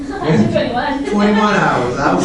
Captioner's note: laughs; laughter